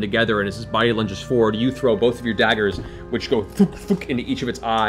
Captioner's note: thoonk thoonk